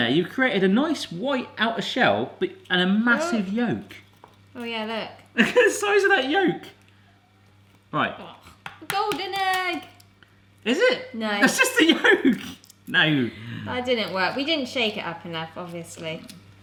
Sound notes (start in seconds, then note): 8.6 tapping